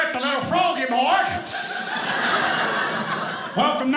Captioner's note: audience laughing